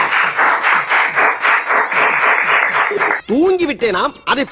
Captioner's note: everyone applauds